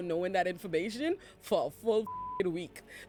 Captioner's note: beep